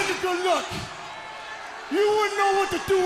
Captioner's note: crowd cheering